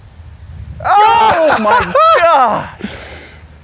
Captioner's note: laughs